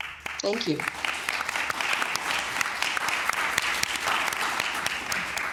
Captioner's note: applause